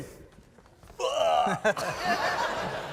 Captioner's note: dying goat